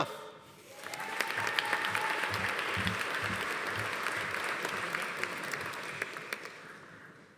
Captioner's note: audience applauding; audience cheering